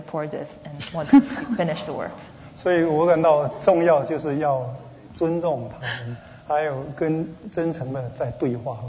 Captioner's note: speaking Mandarin